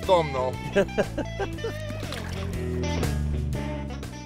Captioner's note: laughing